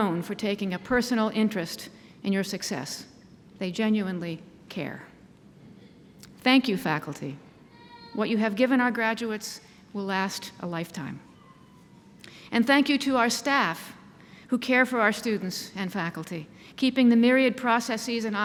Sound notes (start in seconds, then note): none